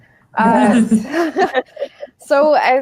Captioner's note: laughing